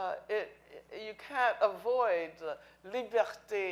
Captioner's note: speaking in foreign language